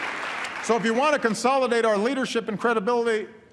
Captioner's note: applause